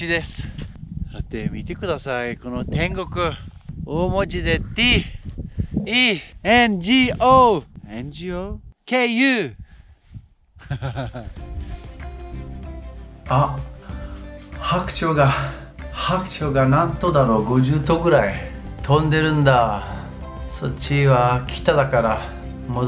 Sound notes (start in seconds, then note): 9.7 japanese